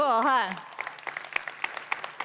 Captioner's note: applause